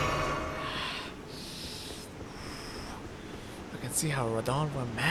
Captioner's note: heavy breathing as if dealing with pregnancy contractions